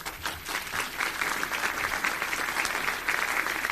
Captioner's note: applause